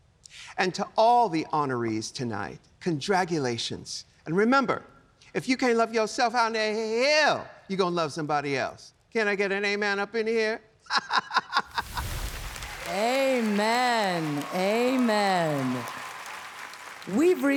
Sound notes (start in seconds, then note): 12.5 laughs